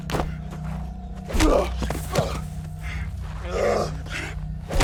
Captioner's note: both moaning